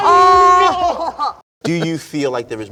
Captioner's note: laughing